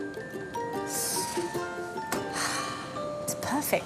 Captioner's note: sighs